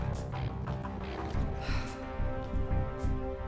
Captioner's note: sighs